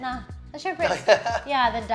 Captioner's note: laughs